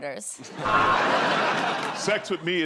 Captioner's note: buzzer